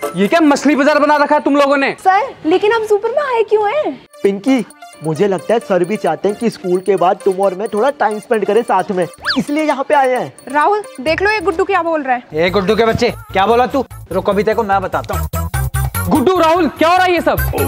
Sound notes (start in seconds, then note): 15.1 quarreling